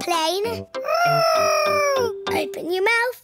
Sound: imitating aeroplane

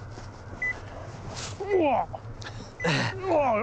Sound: beeps

